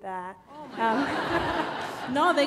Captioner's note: laughter